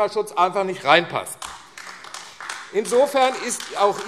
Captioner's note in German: Beifall AfD